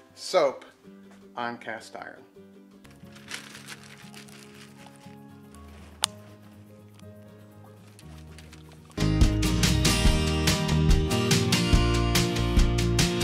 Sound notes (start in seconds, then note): 2.9 paper crumpling; 3.1 gentle bright music